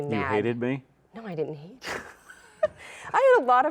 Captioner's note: laughs